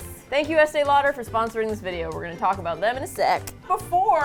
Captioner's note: snaps